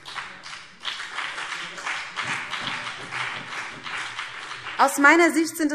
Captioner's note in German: Beifall BÜNDNIS 90/DIE GRÜNEN und CDU